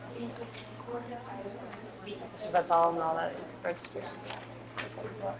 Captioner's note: audience chattering